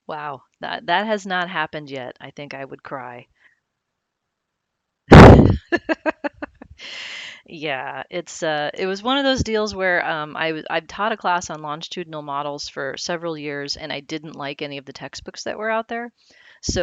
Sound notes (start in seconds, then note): 5.2 laughs